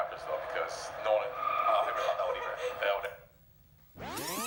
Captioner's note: girl behind camera laughing; tape rewinding